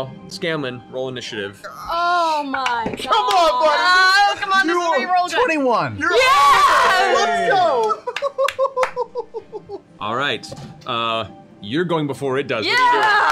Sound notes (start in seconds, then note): 6.1 cheering